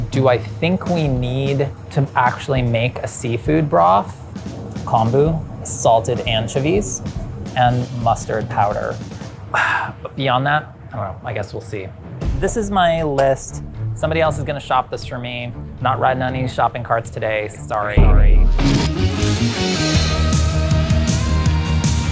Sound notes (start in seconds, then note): 9.0 exhales sharply; 18.6 upbeat music